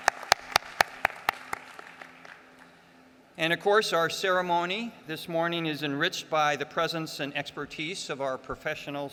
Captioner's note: applause